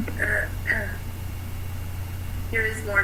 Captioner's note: clears throat